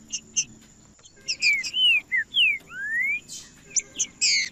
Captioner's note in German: trinca ferro cantando